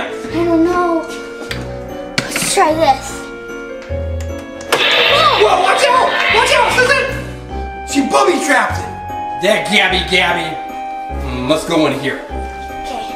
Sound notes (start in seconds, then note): 4.6 panel surges